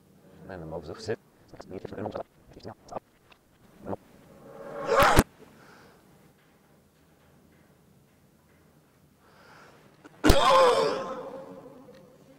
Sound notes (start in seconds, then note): 0.1 audio reversed, speeding up; 4.7 cough; 10.0 cough, slowed